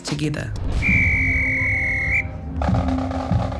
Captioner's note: whistle blows; drumming